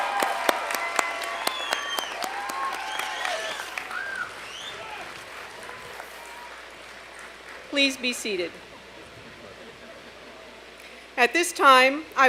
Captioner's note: applause